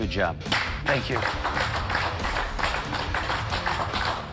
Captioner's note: applause